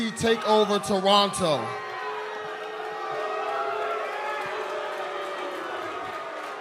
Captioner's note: crowd cheering